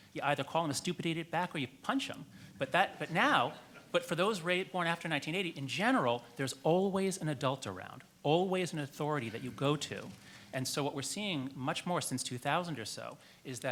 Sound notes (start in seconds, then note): 2.5 audience laughs